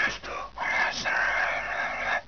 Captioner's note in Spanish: más susurros